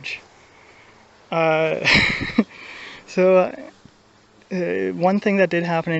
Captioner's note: laughs